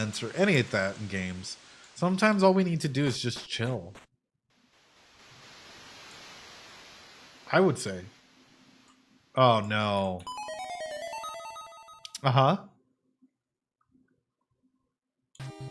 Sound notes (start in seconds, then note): none